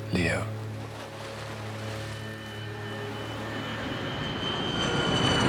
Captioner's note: aeroplane whooshing